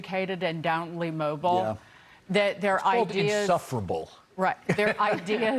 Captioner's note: laughter